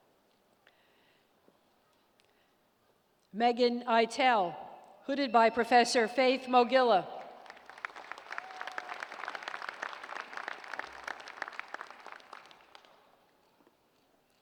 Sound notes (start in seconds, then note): 7.2 applause